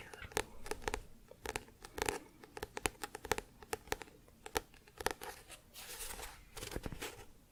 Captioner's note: tapping on book